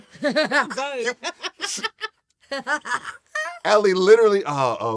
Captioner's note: they laugh